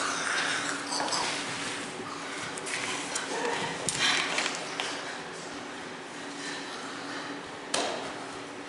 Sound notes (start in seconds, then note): 4.1 CHORUS LEADER sniffs the air